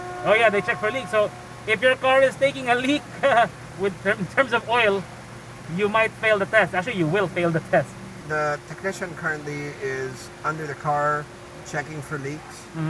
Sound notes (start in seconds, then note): 2.6 laughs